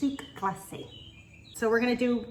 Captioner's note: birds chirping